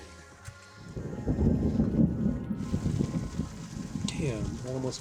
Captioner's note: thunder rumbles